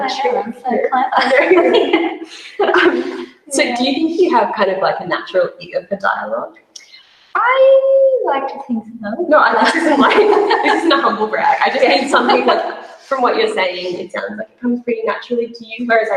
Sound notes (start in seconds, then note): 1.0 laughter drowns out speaker; 9.3 laughs